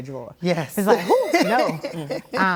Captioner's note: laughs